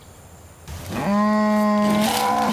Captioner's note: cow moos